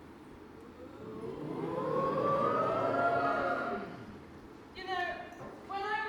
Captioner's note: audience: ooooooo